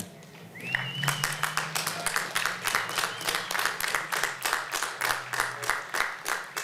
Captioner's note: applause